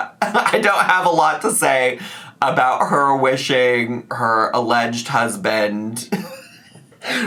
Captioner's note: laughs